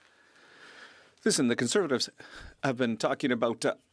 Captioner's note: speaking French